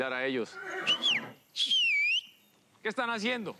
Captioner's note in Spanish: silbidos